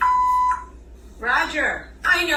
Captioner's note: answering machine beeps